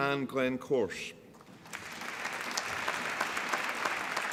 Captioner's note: applause